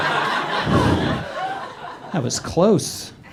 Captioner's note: whew